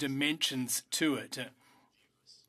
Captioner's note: speaking French